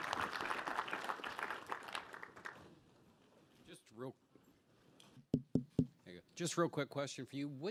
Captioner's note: applause